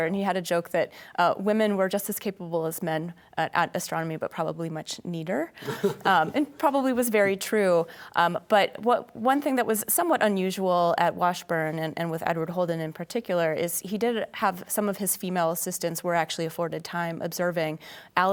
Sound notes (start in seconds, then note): 5.6 laughs